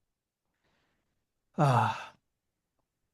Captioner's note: sigh